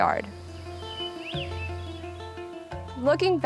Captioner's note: birds chirping